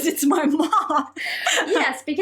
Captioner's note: both laughing